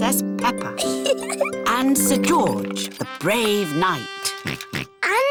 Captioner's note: chuckles; oinks